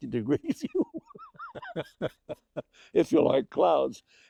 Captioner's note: chuckling